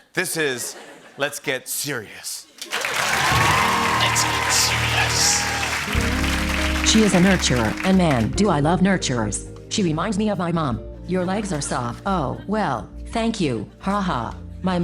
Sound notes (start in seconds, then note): 2.6 cheers and applause; 4.2 whispering